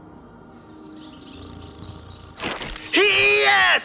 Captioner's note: birds tweating